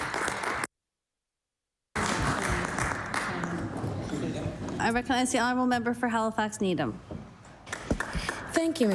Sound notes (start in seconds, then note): 1.9 applause